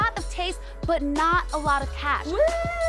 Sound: upbeat hip music; whooping

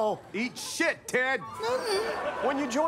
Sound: ted groaning

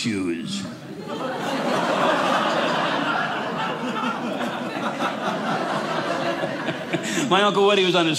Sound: audience laughing

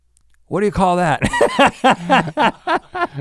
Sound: laughs

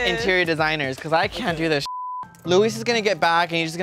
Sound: beep

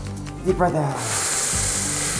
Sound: exhales

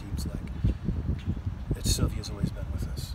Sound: mysterious breeze blows

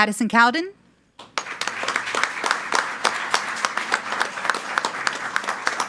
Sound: group applauding

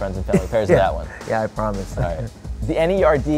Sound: laughing

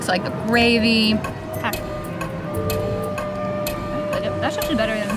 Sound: clock ticking

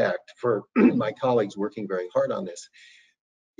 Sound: coughs

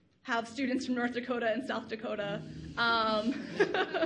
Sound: laughs

